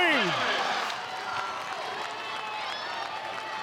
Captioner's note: audience cheering